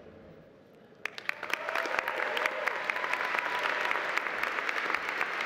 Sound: audience applauding

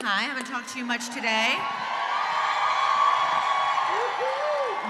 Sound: audience cheering

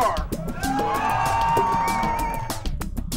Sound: crowd cheering

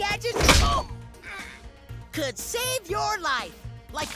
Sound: groaning

